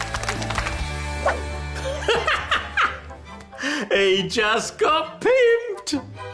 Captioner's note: laughs